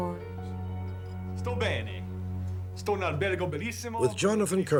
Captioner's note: speaking foreign language